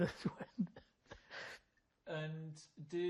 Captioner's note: laughing